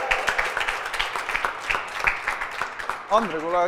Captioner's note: aplause